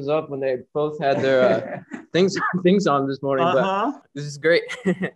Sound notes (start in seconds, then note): 4.8 chuckling